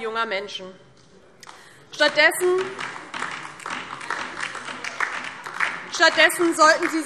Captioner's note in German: Beifall DIE LINKE und vereinzelt SPD